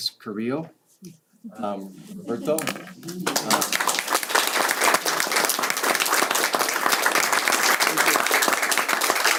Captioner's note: applause